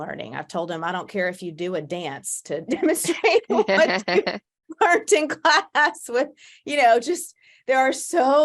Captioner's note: laughs